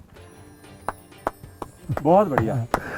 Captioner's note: applause